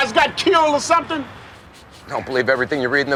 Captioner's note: none